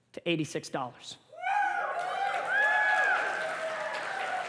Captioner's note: cheers and applause